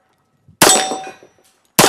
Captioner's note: bang